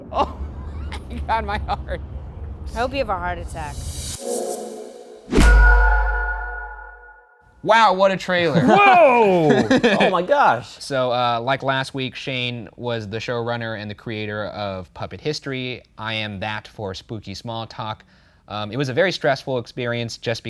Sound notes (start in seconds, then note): 0.0 thunder clapping; 4.3 ethereal music; 5.2 air whooshing; 8.4 both laughing